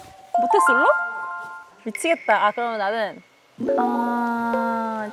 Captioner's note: sound effect for correct answer